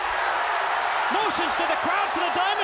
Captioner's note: crowd cheering